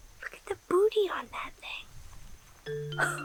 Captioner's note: laughs